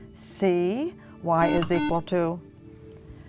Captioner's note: buzzer